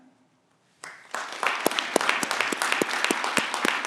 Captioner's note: clapping